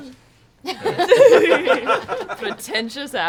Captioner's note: laughter